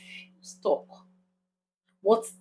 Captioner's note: paause